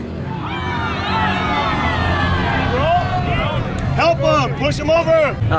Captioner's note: crowd yelling excitedly